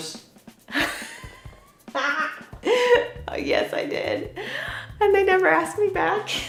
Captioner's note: laughing